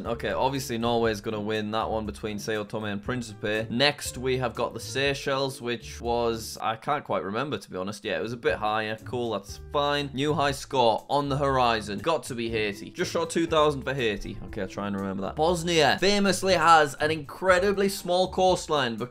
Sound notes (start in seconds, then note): none